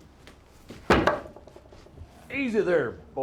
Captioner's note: knife thudding